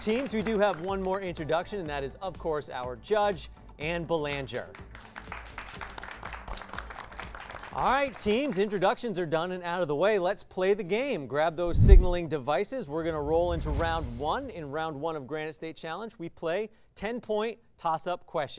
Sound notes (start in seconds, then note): 4.3 applause